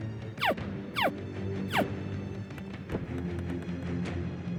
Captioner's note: alligator call